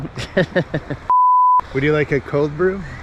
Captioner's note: laughs